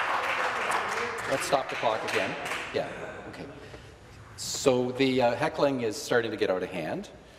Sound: some Applause

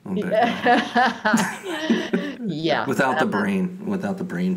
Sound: both chuckling

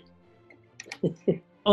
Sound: chuckling

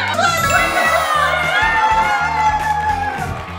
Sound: cheering; screaming

